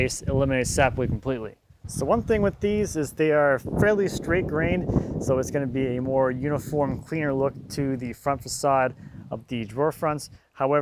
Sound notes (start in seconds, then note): none